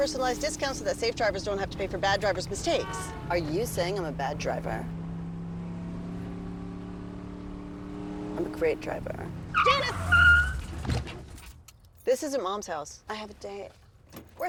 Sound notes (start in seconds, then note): 9.5 tires screech